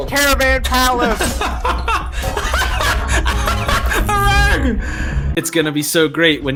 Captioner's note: laughing loudly